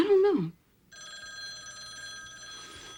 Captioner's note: telephone ringing